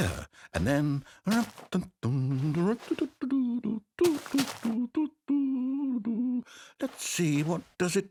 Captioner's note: humming